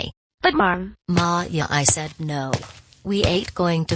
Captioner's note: footsteps